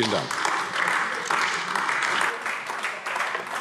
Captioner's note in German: Beifall AfD